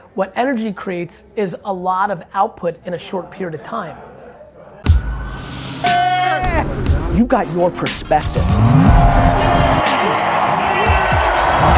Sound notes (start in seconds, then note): 5.8 yells